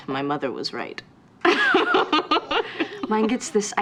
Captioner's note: laughing